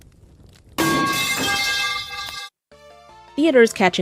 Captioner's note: pipe drop noise